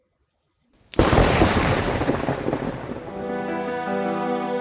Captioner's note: thunder, lightning & screech